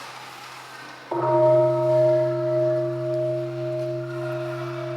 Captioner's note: bell ringing